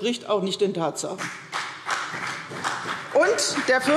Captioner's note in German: Beifall CDU und BÜNDNIS 90/DIE GRÜNEN